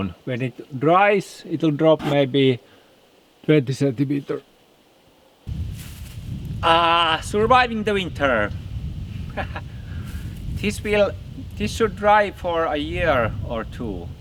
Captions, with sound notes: When it dries, it'll drop maybe 20 centimeter. Ah, surviving the winter. (laughs) This should dry for a year or two.